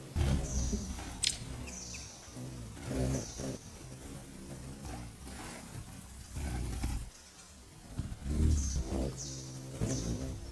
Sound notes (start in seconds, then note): 0.0 buzzing; 0.0 birds chirping